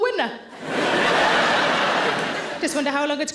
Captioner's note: audience laughing